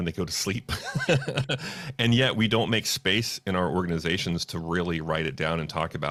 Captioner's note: laughs